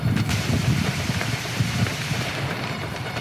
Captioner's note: multiple gunshots